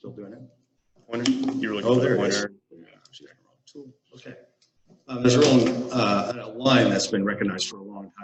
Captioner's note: chatter